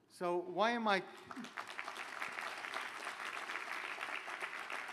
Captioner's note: applause